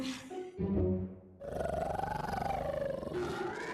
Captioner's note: growling